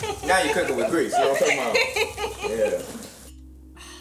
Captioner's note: laughs